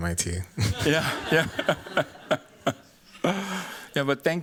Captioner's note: laughter